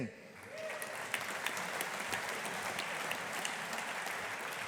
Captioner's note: audience applauding